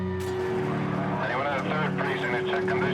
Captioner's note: over police radio